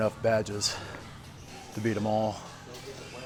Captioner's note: heavily breathing